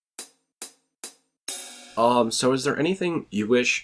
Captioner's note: transition sound